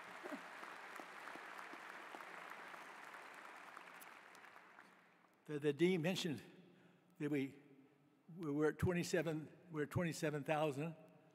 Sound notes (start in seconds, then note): 0.0 applause